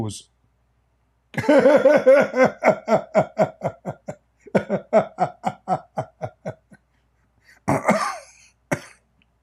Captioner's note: Ketawa